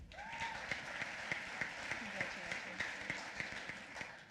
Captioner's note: applause